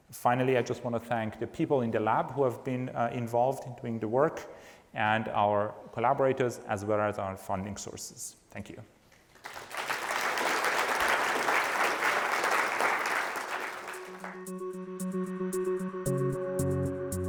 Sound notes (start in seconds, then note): 9.3 applause; 13.9 pleasant music